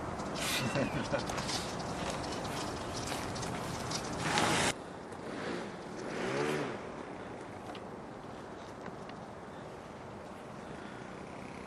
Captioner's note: engine noise